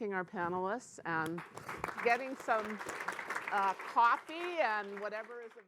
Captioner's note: audience clapping